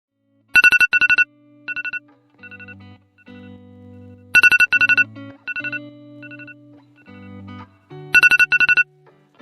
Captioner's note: phone Alarm